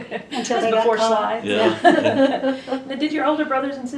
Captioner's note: laughter